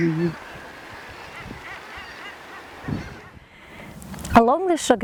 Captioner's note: sea birds